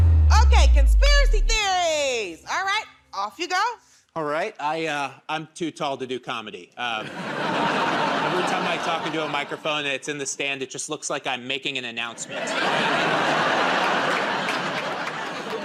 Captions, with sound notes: Okay. Conspiracy Theories. Alright. Off you go. -Alright. I'm too tall to do comedy. [ Laughter ] Every time I talk into a microphone, it's in the stand, it just looks like I'm making an announcement. [ Laughter and applause ]